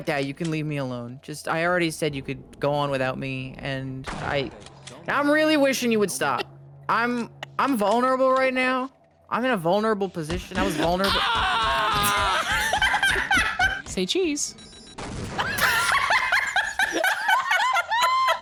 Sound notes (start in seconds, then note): 4.0 gunshot; 12.6 both laugh; 15.0 explosion; 15.3 both laugh